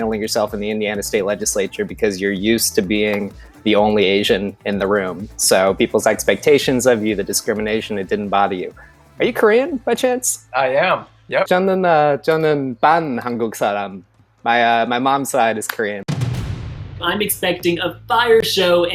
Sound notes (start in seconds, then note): 11.6 foreign language; 16.1 whooshing